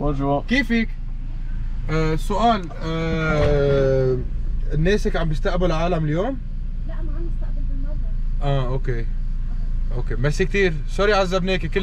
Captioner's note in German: Arabisch sprechend